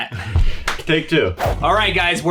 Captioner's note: claps